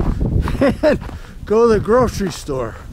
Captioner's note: laughs